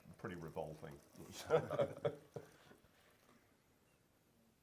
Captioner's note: laughter